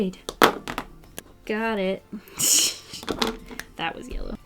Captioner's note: laughs